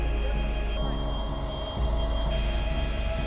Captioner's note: fire crackling